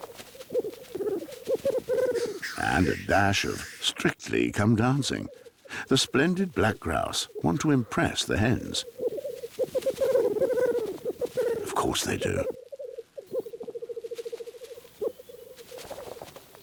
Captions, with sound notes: [hooting] ...and a dash of Strictly Come Dancing, the splendid black grouse want to impress the hens. [chirping] Of course they do.